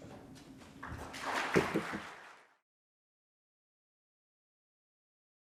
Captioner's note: audience applauding